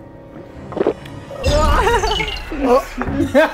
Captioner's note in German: Würgen, Lachen